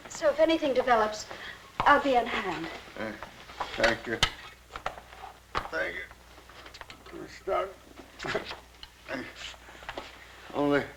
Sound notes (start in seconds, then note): none